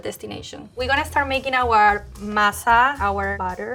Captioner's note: speaking Spanish